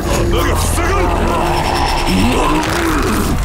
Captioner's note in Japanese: うなる声